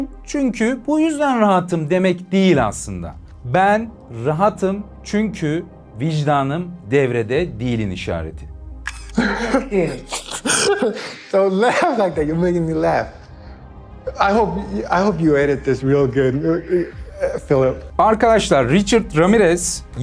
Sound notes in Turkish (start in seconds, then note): 9.1 kahkaha